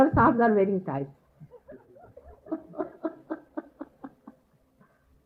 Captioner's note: mother is laughing